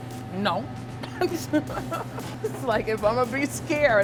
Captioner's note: laughs